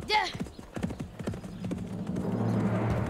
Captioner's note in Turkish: Nal sesleri